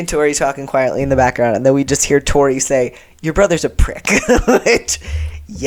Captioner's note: laughter